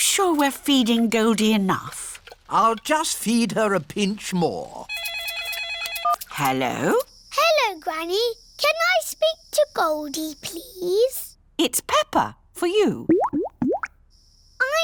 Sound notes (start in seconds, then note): 4.9 phone rings; 13.0 bubbling